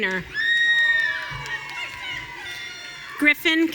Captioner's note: audience cheering